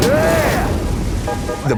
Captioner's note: cheering